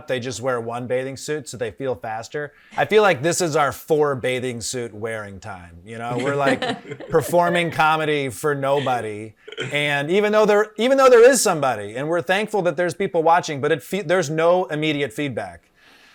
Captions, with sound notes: they just wear one bathing suit so they feel faster? I feel like this is our four bathing suit-wearing time. (panelists laughing) We're performing comedy for nobody, even though there is somebody, and we're thankful that there's people watching, but there's no immediate feedback.